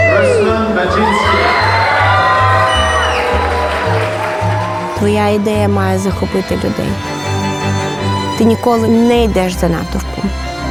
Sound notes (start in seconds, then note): 2.9 audience applauds